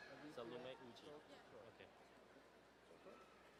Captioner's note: quiet talking